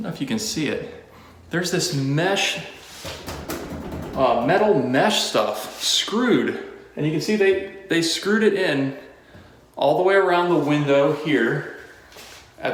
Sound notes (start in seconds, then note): 3.1 knocking On Mesh